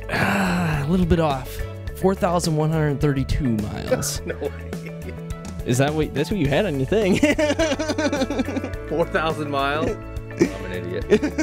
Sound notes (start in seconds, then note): 7.0 laughter